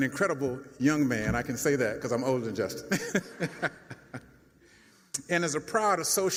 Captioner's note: chuckles